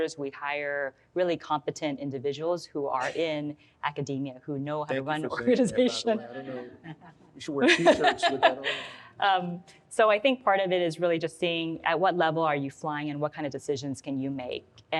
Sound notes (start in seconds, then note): 7.6 laughs